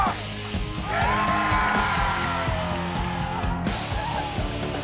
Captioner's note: crowd cheering; instrumental music